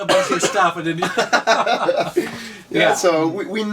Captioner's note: laughs